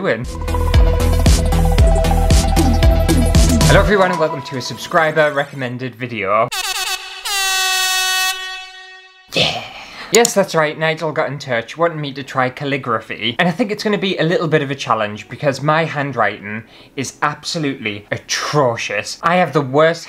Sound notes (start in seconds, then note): 0.0 intro Music; 6.5 air horn!!